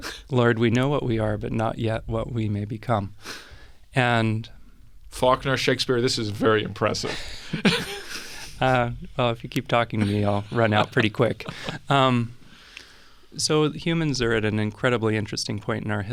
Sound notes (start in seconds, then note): 7.9 laughs